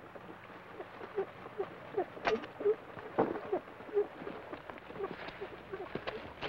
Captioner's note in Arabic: صندوق الروك يصدر صوت صرير إيقاعي